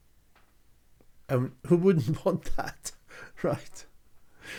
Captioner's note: chuckles